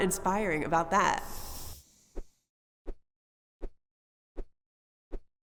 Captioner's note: air whooshing